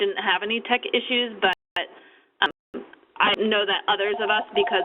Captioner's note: phone ringing